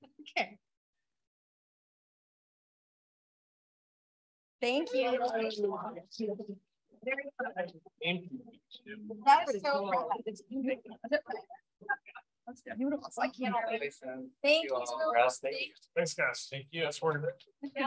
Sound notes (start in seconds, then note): 1.3 silence; 4.6 background conversations